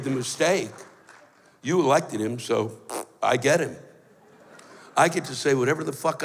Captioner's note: blows raspberry